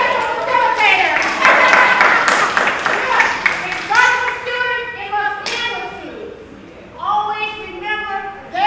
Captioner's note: applause